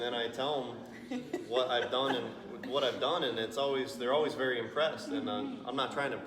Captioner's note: hehehaha